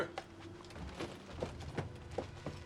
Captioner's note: footstep